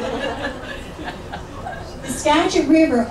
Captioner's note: audience laughs